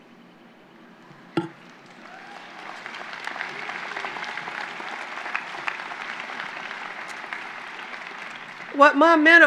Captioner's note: applause